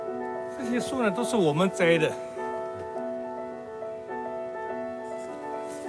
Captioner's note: speaks in Chinese language